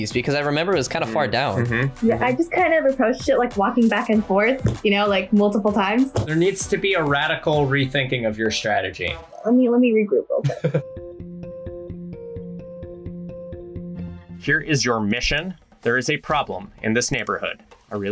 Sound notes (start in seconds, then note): 10.4 laughs; 11.2 upbeat music